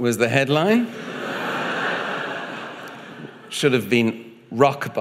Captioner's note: audience laughing